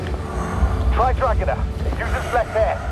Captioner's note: Tim over radio